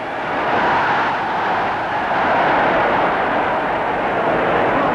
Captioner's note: crowd shouting